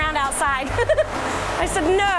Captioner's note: giggles